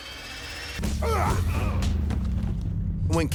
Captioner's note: men grunting